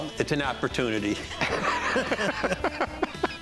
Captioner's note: laughs